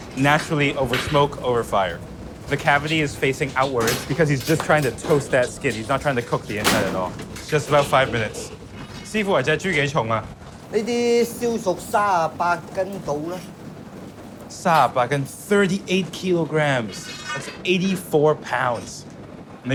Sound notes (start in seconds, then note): 9.1 speaks in foreign language; 10.7 chef 1 speaks in foreign language; 14.7 speaks in foreign language